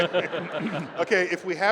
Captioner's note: laughter